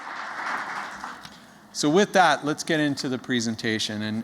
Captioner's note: applause